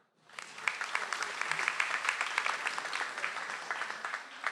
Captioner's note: audience applauds